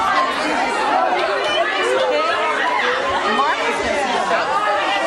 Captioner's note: audience hollering